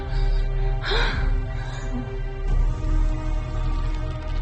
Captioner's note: Juliette moaning